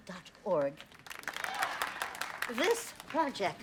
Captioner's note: applauding